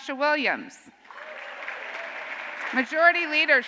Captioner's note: cheers and applause